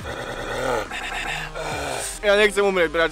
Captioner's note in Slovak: krátke vypustenie gorily; zvuky hlasného dýchania do hudby; zvuky syčania hada ♫♫♫; záverečné ahhhh